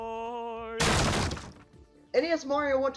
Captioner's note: door being destroyed